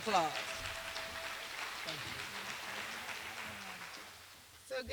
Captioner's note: applause